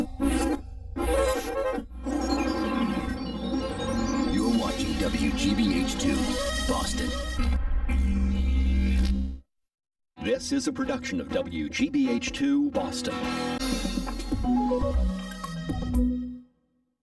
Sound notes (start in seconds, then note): 7.9 neon electricity zapping